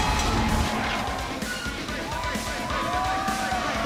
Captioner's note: bell ringing